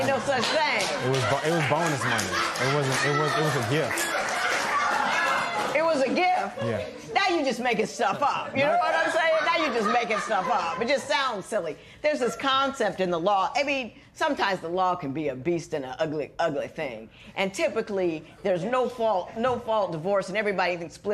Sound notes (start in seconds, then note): 0.1 applause; 0.6 laughter; 4.3 laughter continues